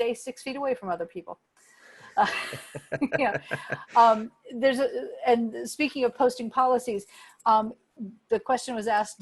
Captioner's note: laughter